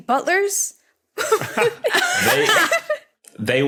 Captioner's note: guessers laughing